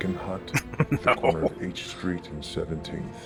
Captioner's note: chuckling